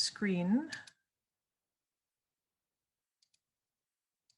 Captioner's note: keyboard clicking